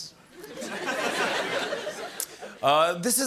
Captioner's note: laughter